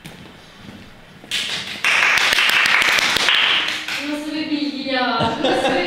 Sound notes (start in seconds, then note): 1.8 applause